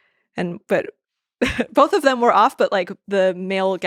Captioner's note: chuckles